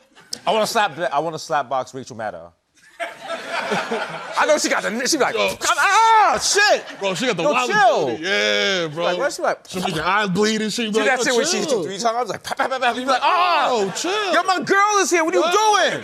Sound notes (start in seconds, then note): 2.8 laughter; 7.7 yelling